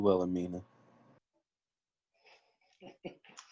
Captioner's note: laughing